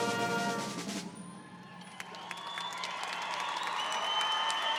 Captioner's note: audience cheering